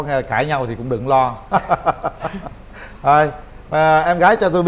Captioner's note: laughter